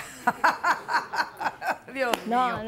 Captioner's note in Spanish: Risas